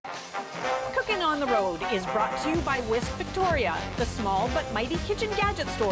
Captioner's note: announcer voice